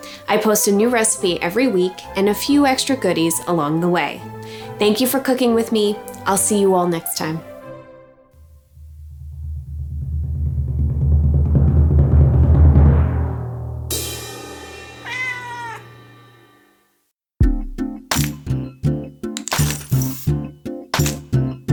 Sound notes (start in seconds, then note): 10.2 drums roll; 15.0 cat meows; 17.4 calm music